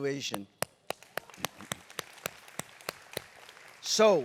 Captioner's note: applause